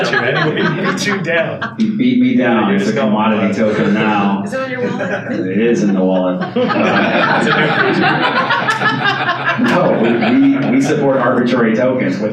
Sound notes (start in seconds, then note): 7.1 audience laughs